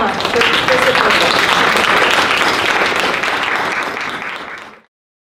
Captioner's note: participants applauding